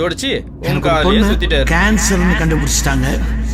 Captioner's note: earlier conversations echoes